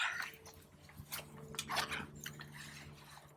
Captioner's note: zipper opens